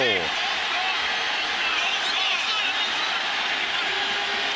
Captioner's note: crowd cheering